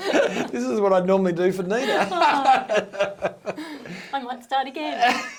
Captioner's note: both chuckling; laughing